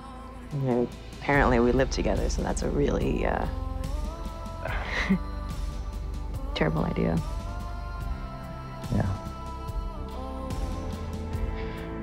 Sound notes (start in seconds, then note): 4.7 chuckles